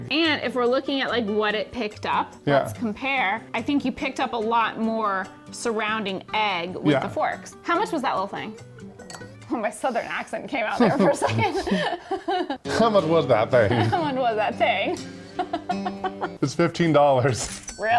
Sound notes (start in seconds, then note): 12.3 laugh; 12.6 western music; 15.3 laughs; 17.8 cash register clicking